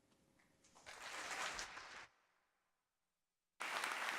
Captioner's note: audience applauding